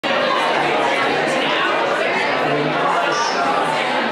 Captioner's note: people chattering